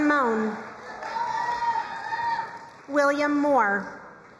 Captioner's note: crowd cheering and applauding